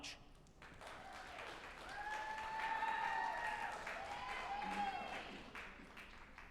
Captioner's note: group applauding and cheering